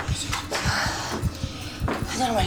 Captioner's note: moans